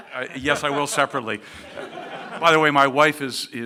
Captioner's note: laughing